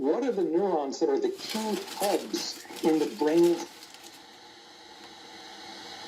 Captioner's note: static sound